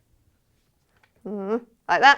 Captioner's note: groans